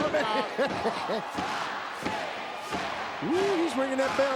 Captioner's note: Hillbilly Jim laughing; crowd chanting